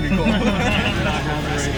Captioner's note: chuckling